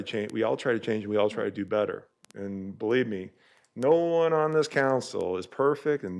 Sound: audio cutting in and out

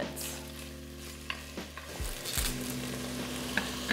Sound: food sizzles

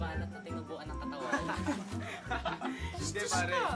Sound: men laughing

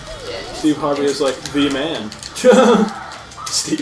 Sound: laughs

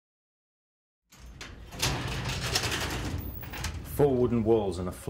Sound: garage door rattling

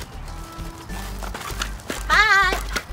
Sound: lively music; boinging

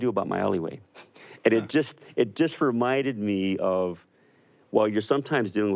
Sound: chuckles

